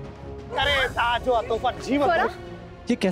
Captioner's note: speaking in regional language